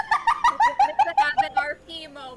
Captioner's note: laughs